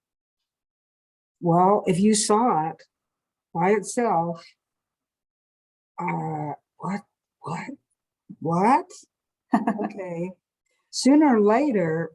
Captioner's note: laughs